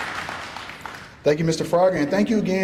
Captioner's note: applause